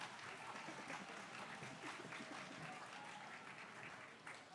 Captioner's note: applause